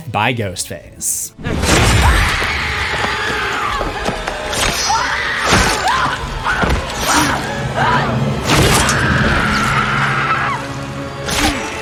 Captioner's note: screams